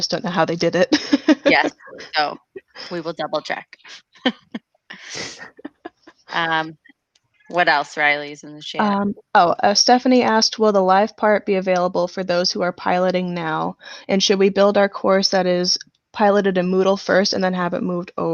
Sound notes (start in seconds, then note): 5.0 laughs